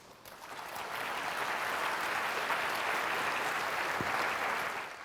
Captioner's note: applause